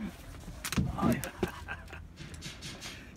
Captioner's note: laughter